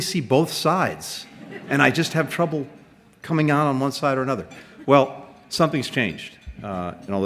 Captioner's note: laughter